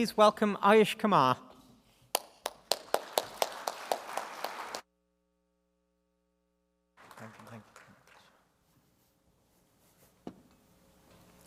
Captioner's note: applause